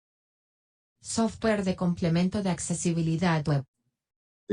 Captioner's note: computer in Spanish